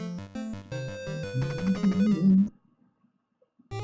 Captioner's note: humming along